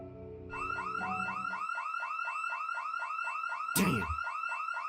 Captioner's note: house alarm ringing